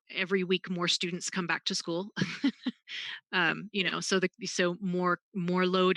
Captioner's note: laughs